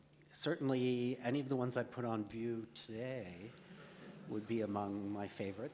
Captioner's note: audience laughs